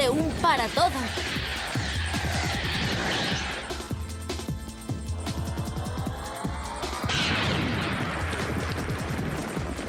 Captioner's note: blast